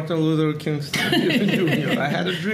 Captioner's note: laughing